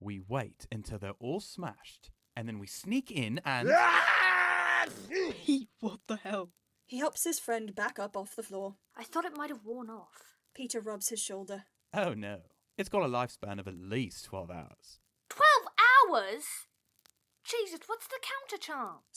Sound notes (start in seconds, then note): 4.7 loud, drawn out, “achoo” again